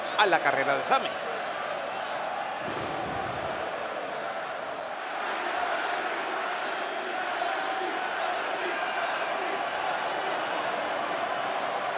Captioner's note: applause